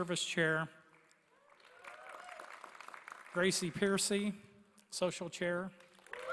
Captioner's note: applause; applause